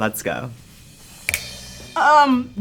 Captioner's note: snap their fingers